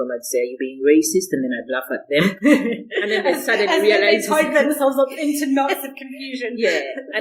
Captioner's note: chuckles